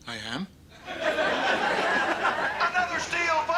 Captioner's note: audience laughter